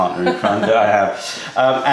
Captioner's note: laughter